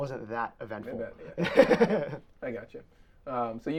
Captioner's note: both laughing